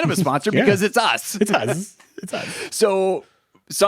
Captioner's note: chuckles